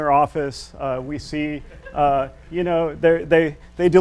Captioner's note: audience laughs